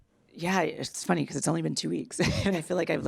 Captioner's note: laughs